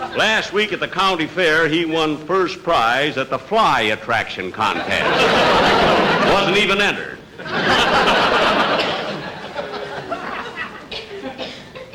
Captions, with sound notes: Last week at the county fair he won first prize at the fly attraction contest. (Audience Laughing) Wasn't even entered! (Audience Laughing)